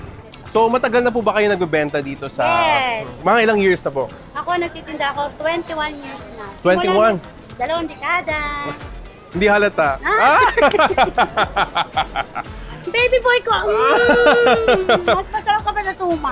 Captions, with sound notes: So have you been selling here for a long time? - Yes. - For how many years? - I've been selling for 21 years already. - 21? - Two decades. - It's not obvious. (laughs) - This is my baby boy. You’re even tastier than the suman!